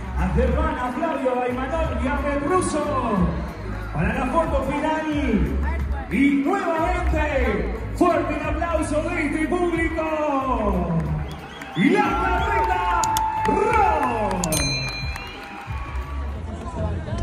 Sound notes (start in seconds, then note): 10.7 applause